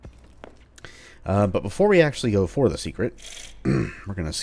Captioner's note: clears throat